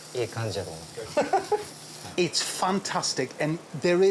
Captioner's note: sizzling; laughs; speaks Japanese